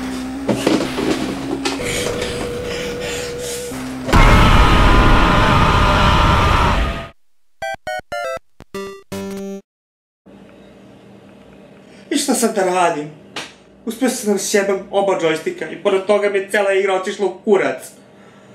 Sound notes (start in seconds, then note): 3.8 explosion; 4.0 screaming in agony